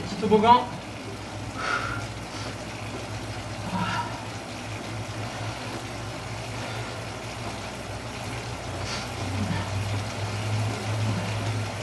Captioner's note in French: soufflements